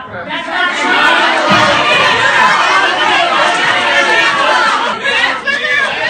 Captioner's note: very loud incoherent yelling